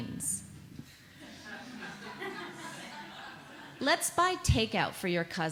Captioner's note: audience laughs